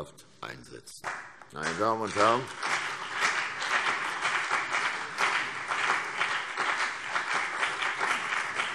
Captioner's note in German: Beifall CDU und BÜNDNIS 90/DIE GRÜNEN